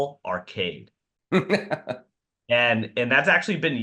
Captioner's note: laughing